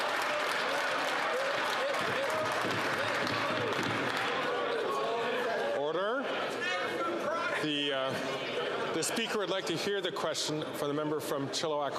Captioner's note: some Applause